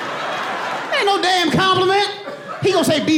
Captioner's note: audience laughs